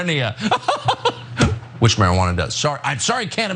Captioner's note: laugh